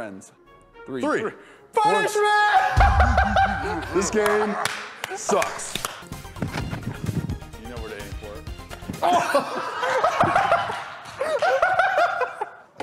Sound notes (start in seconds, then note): 2.6 laughs; 9.0 laughter